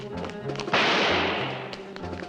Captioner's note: gun firing